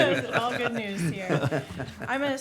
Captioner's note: group laughing